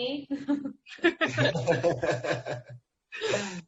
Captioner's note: both laughs